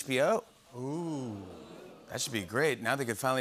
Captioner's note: oohing